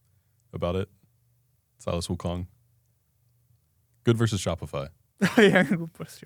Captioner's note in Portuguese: risos